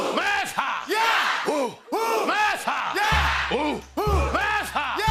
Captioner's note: repeated chanting; drum beating